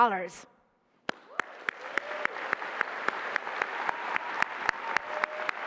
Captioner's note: applause and cheering